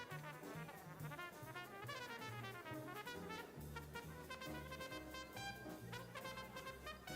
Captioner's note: people chattering; upbeat jazz music continues